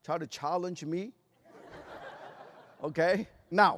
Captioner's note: laughter